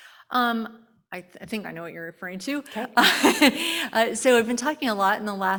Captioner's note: laughs